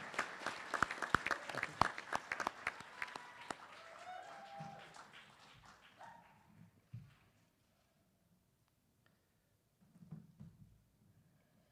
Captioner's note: applause